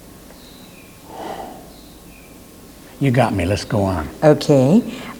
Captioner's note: sighs